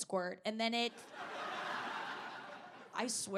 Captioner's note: audience laughing